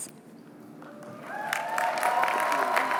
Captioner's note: cheering